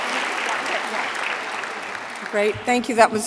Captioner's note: applause